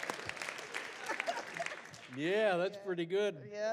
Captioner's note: laughs; audience applauds